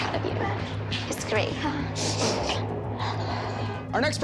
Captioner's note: sniffles